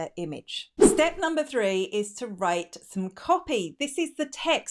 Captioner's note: air whooshing